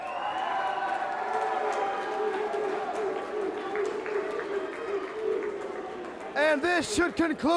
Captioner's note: crowd chatter